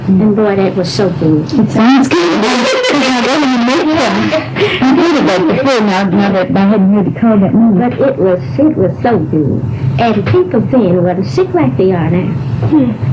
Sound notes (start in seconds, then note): 2.4 laughter